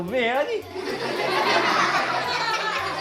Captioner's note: kids laughing